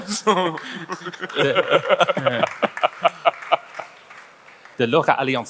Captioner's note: panelists laughing; audience applauds lightly